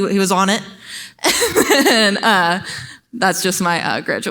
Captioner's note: laughs